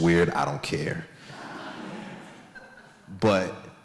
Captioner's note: audience laughs